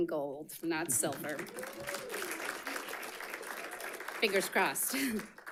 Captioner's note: audience applauding